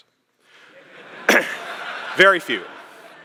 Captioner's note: laughter